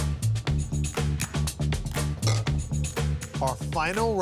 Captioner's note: containers clink